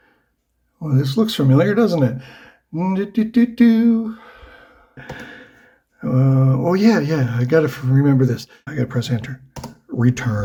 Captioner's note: happy noises